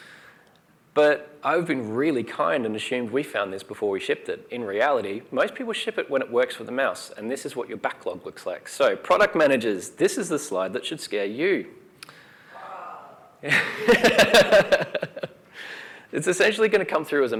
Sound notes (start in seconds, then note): 12.4 sighs; 12.6 laughs